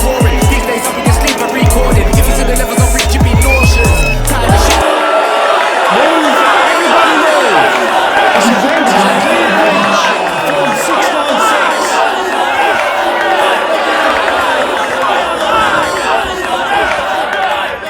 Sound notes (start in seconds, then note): 5.0 crowd booing, shouting, protesting; 9.1 police shouting